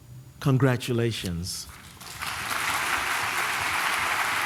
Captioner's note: applause